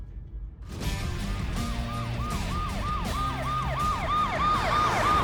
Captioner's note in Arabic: عويل صفارات الإنذار